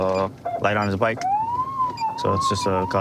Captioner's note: siren on